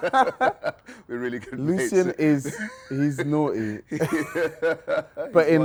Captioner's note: laughs